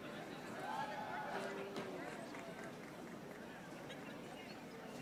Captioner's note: audience chattering